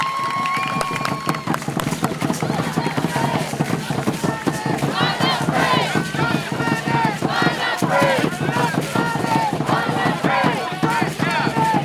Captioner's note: applause and drumming and chanting “UNAFRAID”